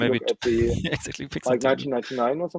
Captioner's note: chattering